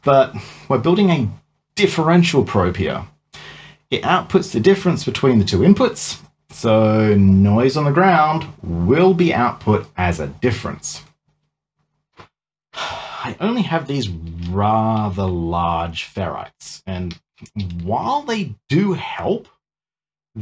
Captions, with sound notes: but we're building a differential probe here. It outputs the difference between the two inputs so noise on the ground will be output as a difference. (sighs) I only have these rather large ferrites and while they do help,